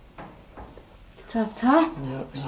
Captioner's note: quiet tapping